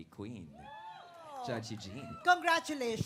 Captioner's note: crowd cheering